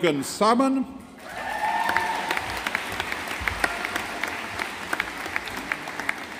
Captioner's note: audience applauding